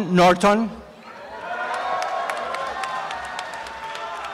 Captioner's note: applause and cheering